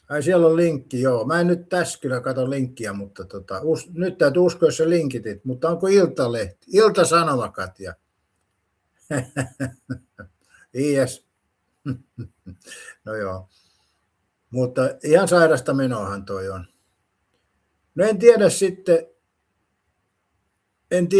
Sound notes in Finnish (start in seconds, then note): 9.1 naurua